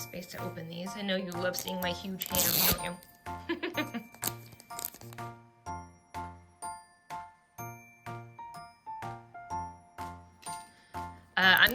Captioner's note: laughs